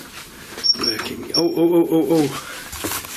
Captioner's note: beeping